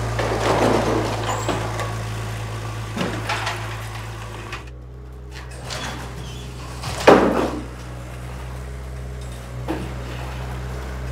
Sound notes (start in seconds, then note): 0.1 wood thudding; 5.4 door squeaking; 7.0 wood knocking